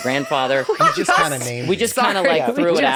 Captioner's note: laughing